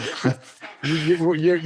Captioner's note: laughing